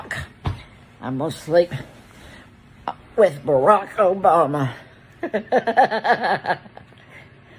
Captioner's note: laughs